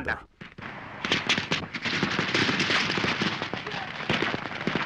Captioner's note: booming fireworks